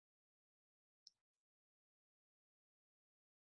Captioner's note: long pause